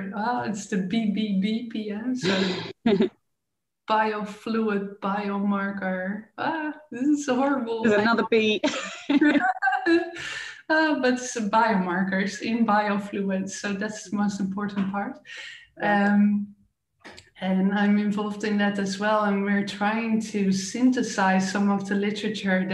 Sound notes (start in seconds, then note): 2.2 chuckling; 7.8 laughing